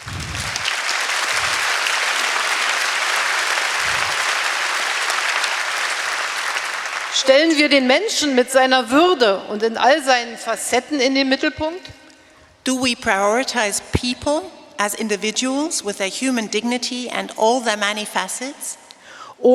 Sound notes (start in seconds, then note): 0.0 applause; 6.9 speaking in German; 19.3 speaking in German